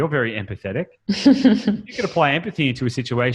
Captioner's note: laughs